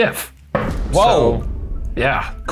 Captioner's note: boom